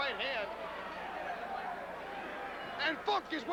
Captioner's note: crowd cheering